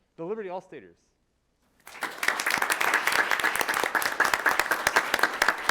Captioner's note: attendees applauding